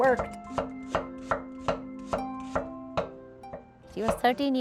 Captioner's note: chopping onions